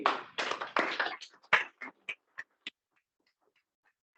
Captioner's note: applause